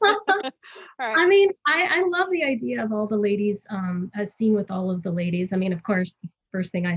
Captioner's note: laughs